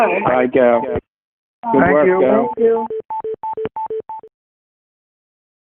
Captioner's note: beeping